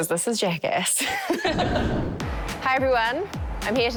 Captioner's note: all laugh